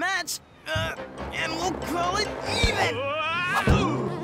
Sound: grunting

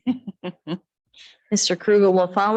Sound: chuckles

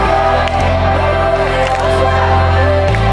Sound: distant clapping and cheering

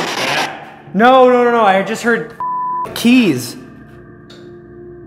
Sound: beep

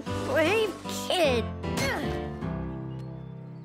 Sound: grunting

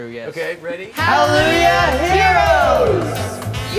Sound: echoing

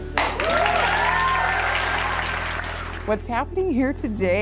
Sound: clapping

